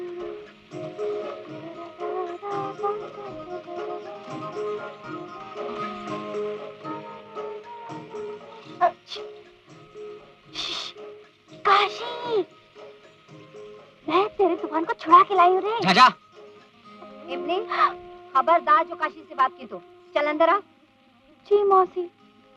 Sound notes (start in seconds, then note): 10.5 calling out